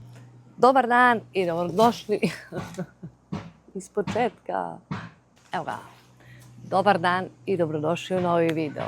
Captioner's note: laughter